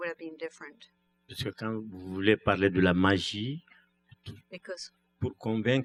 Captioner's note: speaking french